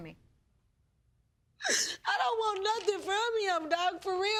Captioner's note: sobbing